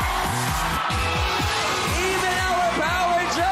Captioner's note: cheering